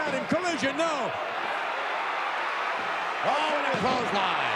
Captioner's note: audience cheering